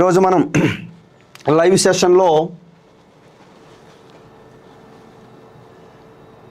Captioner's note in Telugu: గొంతు సవరించుకోవడం